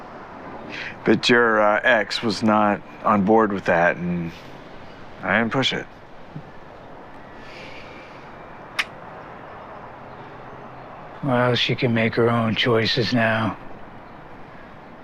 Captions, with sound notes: But your, uh, ex was not on board with that. And I didn't push it. [Hardy clicks his teeth] Well, she can make her own choices now.